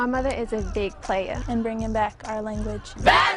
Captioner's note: shouting